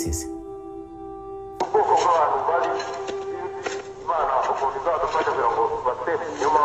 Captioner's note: man speaking in Rwanda-Rundi over loudspeaker